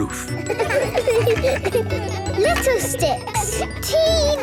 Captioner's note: laughter